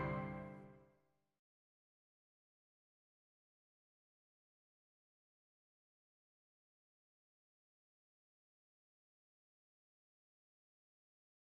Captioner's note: intro Music; no audio